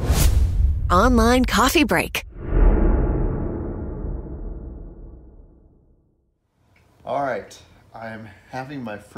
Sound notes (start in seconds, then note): 2.2 dramatic swoosh